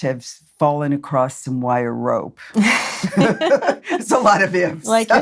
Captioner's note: laughs